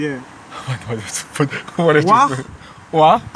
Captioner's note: blabbering